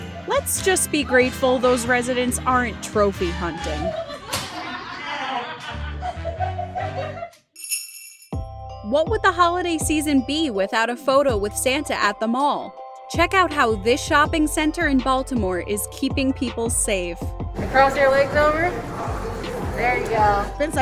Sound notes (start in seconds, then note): 4.3 Nerf guns being shot, laughing; 7.5 bells jingling